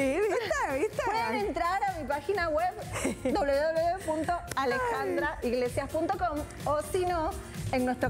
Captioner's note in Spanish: risas